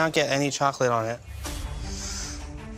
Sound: inhales deeply

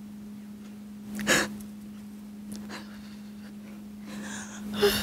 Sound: sniffling

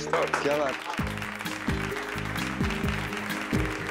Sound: clapping

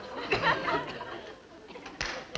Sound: two hand claps

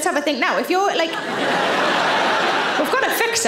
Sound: audience laughing

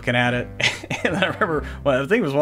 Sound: laughs

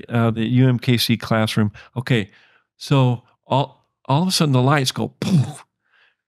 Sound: poof

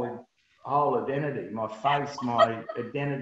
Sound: laughs

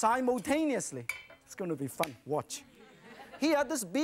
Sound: laughter; crowd

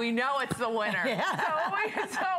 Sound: laughter

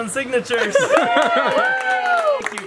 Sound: cheering

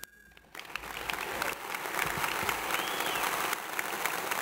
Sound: audience applauds

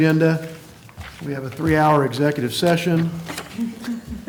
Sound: laughter

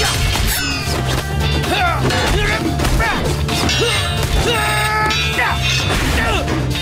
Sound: grunting

